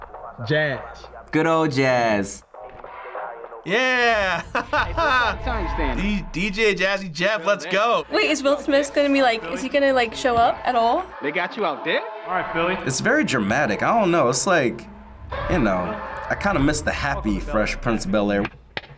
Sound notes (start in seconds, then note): 3.9 laughs; 12.3 jazz